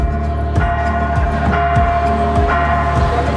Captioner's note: church bells